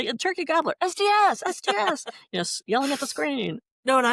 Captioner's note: laughter